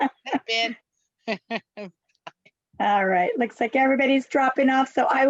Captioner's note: laughs